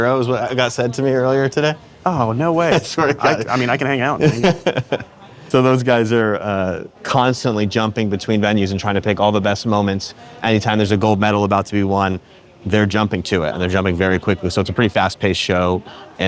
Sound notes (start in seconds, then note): 2.0 laughs